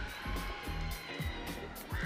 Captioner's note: audience cheering